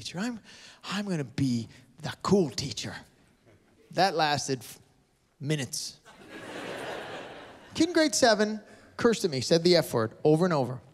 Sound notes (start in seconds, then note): 6.0 laughter